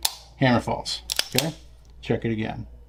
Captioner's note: pistol cocking